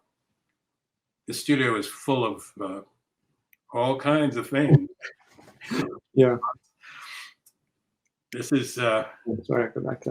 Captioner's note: laughing